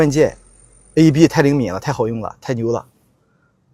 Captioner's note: sarcasm